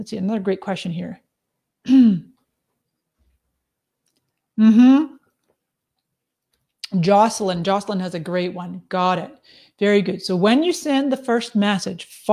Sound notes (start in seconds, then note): 1.8 clears throat